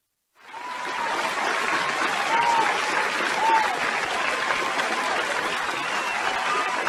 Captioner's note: audience applauding; audience cheering